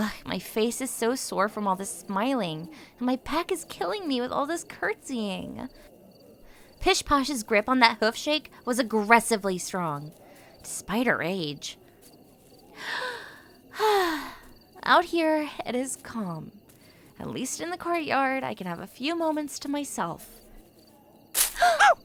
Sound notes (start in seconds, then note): 12.7 deep breath in and out; 21.4 gasps